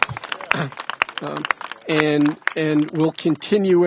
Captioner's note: applause